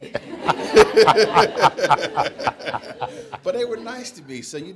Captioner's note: audience laughing